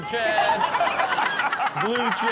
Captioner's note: all laughing